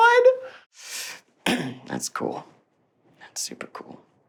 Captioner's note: clears throat